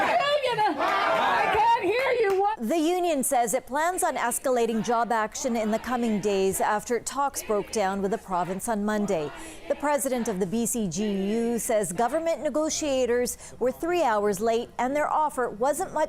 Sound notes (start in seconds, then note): 3.9 chanting